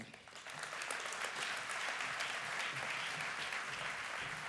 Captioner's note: applause